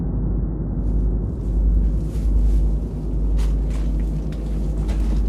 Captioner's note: footsteps rustling